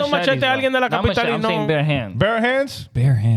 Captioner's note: speaking In Foreign Language